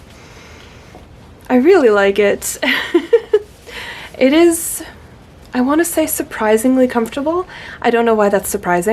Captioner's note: laughter